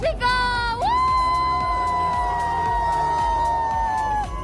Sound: cheering

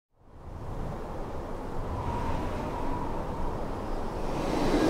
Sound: wind rushing

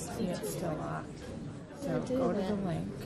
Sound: voiceover

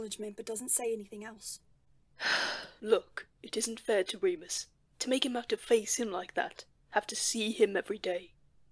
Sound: James sighs

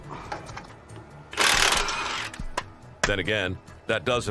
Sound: tool whirring

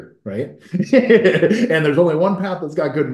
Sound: laughs

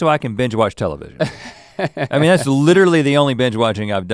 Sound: Link chuckles

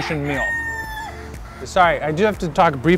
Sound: rooster crowing

